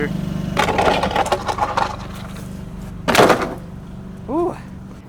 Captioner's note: boards clattering